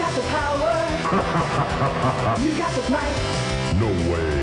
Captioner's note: exhilarating music; Black Knight laughs